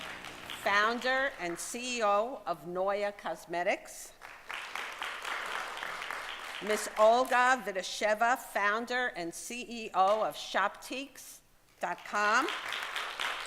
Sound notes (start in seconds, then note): 0.0 applause; 4.2 applause